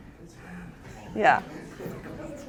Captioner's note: people mumbling